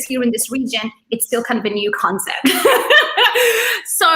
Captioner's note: laughs